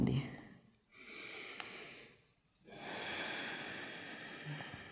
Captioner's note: inhale-exhale